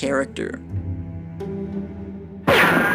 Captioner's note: soundbite of archived recording